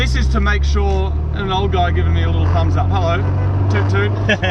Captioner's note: toots horn; laughs